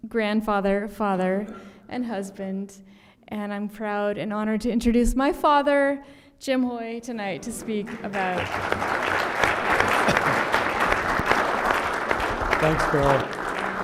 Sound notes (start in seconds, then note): 7.4 applause